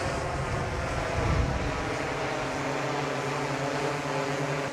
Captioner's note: drone delivery approaching